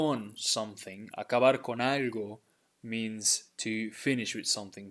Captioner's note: speaking in Spanish